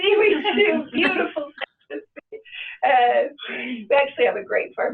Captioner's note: laughs